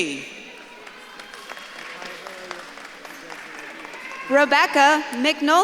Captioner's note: audience claps and cheers